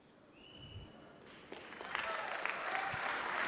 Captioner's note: clapping